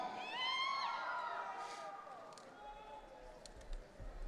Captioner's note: audience cheering